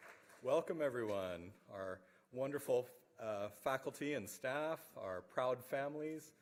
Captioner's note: applause